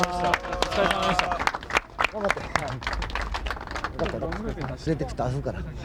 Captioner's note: applause